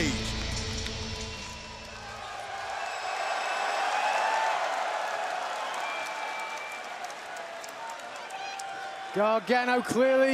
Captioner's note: crowd chatter